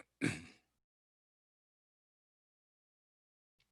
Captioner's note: clears throat